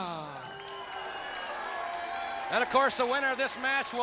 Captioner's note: audience cheering